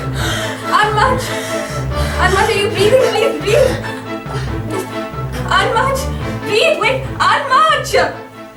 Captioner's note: panicked muttering